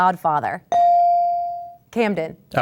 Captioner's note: ding